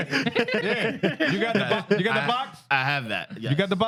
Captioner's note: laughing